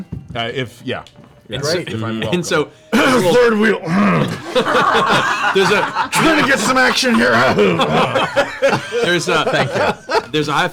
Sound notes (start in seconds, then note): 2.9 coughing; 7.2 laughter